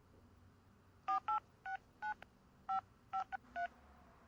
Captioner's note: phone dialing